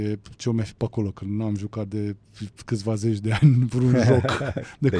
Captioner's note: laughter